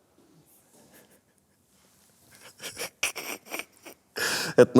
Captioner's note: laughs, first silently, then audibly